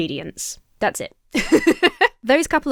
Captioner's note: laughs